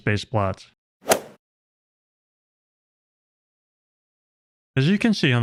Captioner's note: golf ball hit sound effect